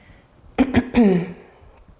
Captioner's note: clears throat